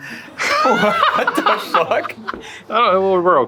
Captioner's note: group laughs